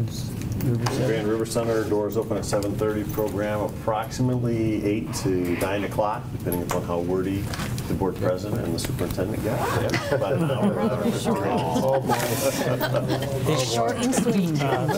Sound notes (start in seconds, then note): 9.8 laughing